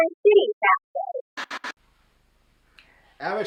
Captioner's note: soft static sound